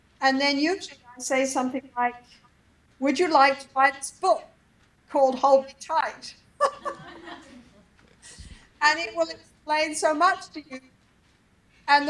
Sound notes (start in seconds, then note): 6.6 laughs